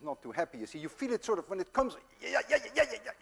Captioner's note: yells